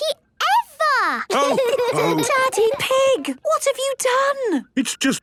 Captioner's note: laughter and snorting; laughter